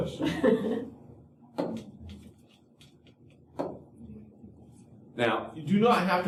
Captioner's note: laughter